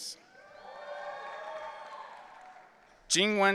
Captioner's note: audience cheering